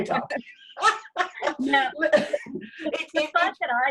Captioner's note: both laughing